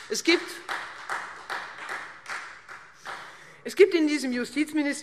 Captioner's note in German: Beifall Freie Demokraten